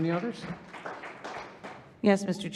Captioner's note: audience applauding